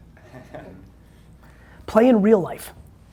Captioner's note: laughing